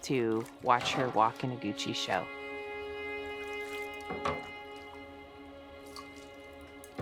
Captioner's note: slow music; water dripping